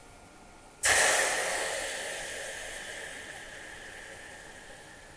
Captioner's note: water sizzling